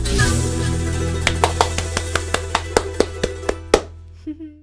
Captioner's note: applauding